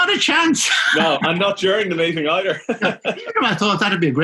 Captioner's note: laughing